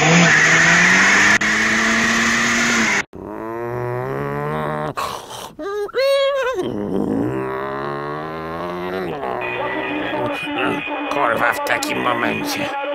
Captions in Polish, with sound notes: *Wojtas mruczy* *telefon dzwoni* Kur*a w takim momencie